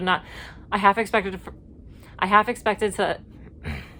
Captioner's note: clears throat